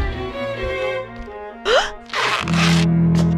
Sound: gasps

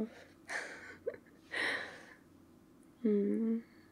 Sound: laughs in Gollum

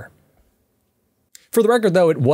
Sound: beat

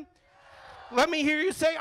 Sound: crowd

